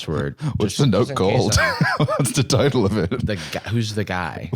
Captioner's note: laughs